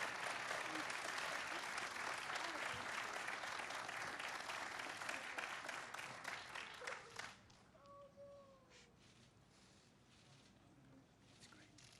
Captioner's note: applause